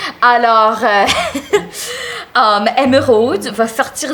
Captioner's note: she laughs